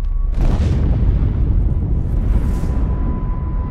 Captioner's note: boom!